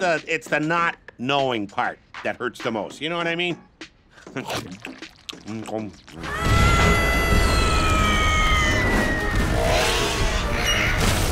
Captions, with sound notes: It's the not knowing part that hurts the most. You know what I mean? [screaming]